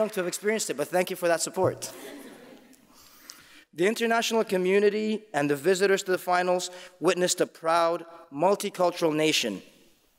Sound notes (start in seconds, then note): 1.8 audience laughing